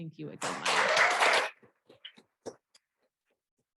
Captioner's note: applause